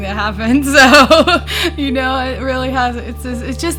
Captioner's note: laughs